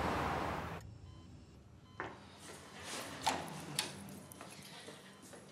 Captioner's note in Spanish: bip en el monitor